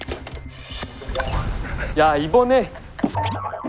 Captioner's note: ضحك صامت